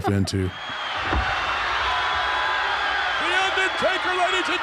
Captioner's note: audience cheering